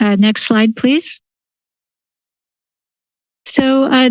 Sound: silence

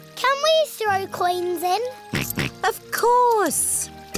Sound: snorts

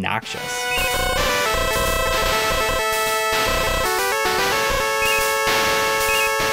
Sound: game audio

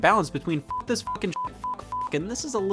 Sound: beep

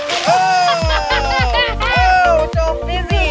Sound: laughing

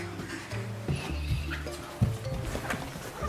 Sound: whispering

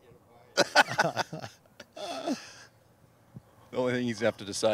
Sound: laughing

